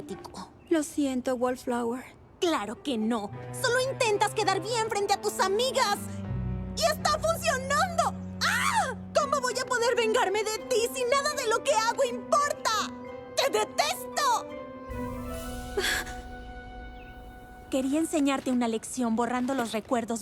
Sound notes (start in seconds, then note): 15.2 gasp